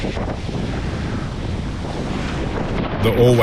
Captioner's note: wind